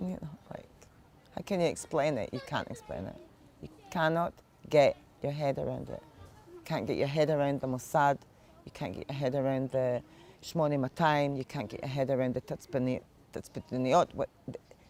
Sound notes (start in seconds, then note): 10.7 hebrew; 14.1 hebrew